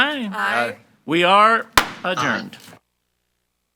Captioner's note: gavel bangs